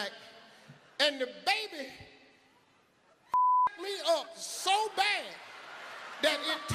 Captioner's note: beep